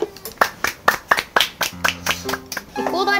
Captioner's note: clapping